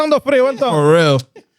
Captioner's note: speaking Foreign Language